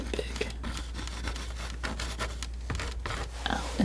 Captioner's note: scratching